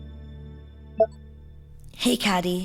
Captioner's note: recorder beeps on